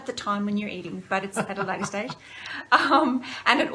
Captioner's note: laughter